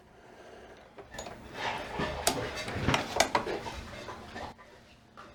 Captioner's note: very slow machine stitching noises; very loud clattering just outside; quiet clattering